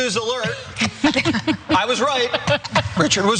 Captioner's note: laugh